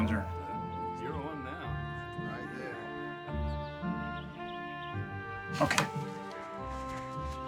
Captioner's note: crowd chattering